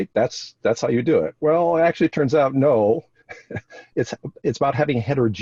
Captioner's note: chuckles